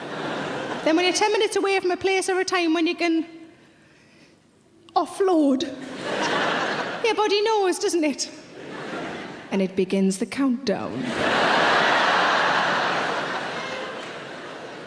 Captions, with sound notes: Then when you're 10 minutes away from a place or a time, when you can offload, (audience laughing) your body knows, doesn't it? And it begins the countdown, (audience laughing)